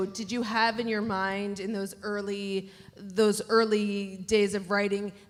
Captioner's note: none